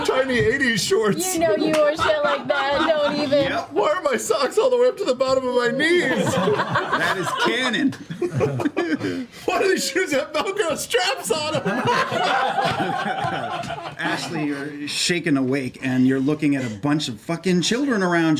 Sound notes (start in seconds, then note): 7.4 laughter